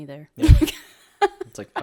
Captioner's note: laughs